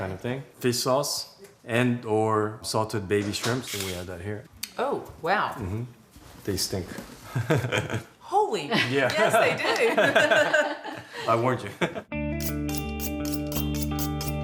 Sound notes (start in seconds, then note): 7.1 laughs; 9.0 all laughing; 12.1 calm music